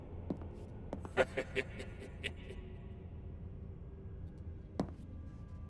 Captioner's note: leprechaun laughing